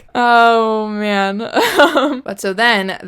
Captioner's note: laughs